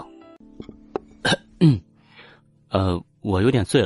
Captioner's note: cough; groan